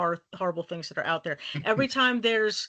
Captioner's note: chuckling